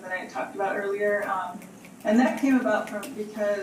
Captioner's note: snaps from audience